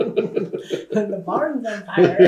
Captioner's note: laughter